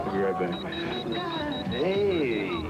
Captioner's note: bp beep beep